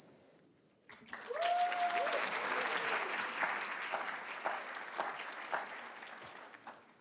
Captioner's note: attendees cheering and applauding